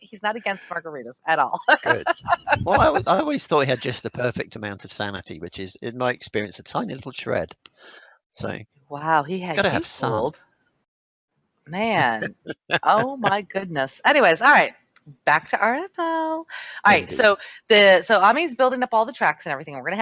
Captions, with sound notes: He's not against margaritas, at all. (laughs) - I always thought he had just the perfect amount of sanity, which is in my experience a tiny little shred sane. - Wow, he had you fooled. Man, oh my goodness. Anyways, all right, back to RFL. So, Amy's building up all the tracks and everything.